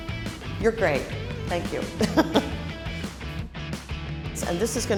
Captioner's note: laughing